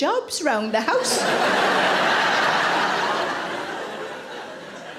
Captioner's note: audience laughing